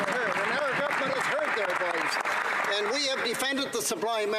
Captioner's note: applause